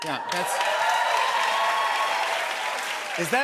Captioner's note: cheers and applause